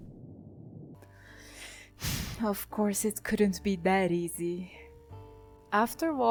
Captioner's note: sigh